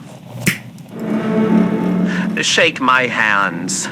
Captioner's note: snap fx, scroll vanishes fx